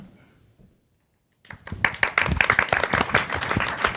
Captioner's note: audience applauds